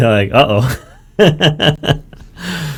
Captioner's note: laughs